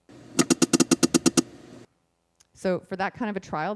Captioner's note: beeping